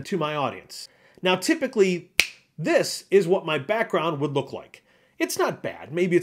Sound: snap

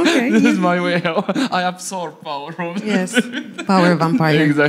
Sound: laughs

